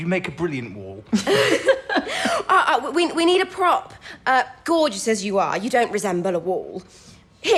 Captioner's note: laughter